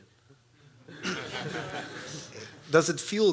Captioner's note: laughs